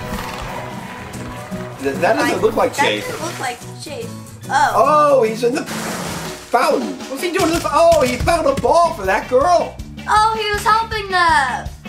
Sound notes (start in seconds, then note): 0.0 in game applauding; 5.5 water splashing